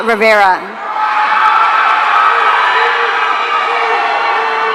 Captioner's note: audience cheering